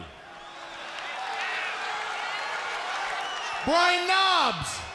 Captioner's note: crowd laughs